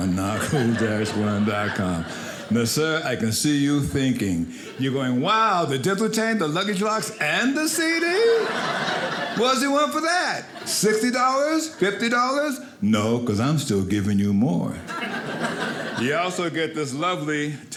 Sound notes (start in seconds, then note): 7.2 audience laughing; 14.8 audience laughing